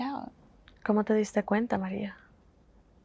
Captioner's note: Spanish